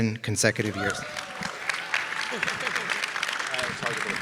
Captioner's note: audience applauding